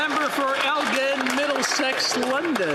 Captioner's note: some Applause